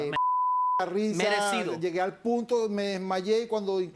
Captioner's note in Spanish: Bip